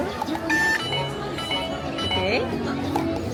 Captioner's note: detector beeping